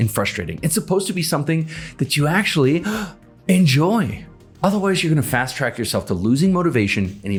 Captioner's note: gasp